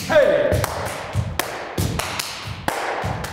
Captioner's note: rhythmic clapping